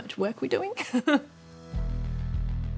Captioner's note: laughs